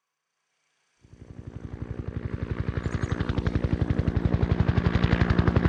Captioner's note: helicopter chuffing